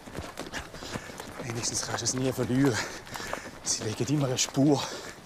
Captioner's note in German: Keuchend